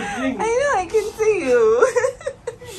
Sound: laughing

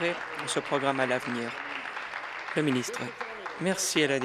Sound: applause

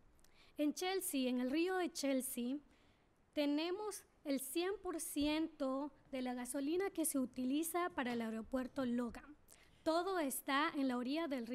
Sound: speaking spanish

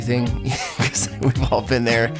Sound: laughs

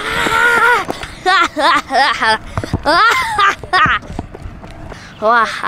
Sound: laughing

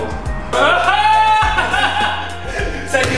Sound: laughter

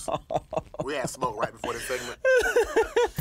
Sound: laughing

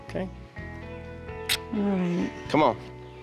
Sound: smooch

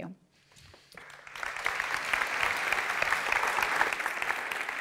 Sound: applause

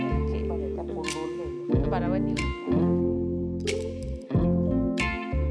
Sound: conversing in foreign language

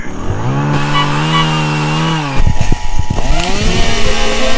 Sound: chainsaw revving

